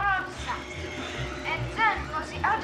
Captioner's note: garage door creaking